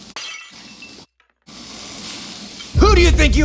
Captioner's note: glass shattering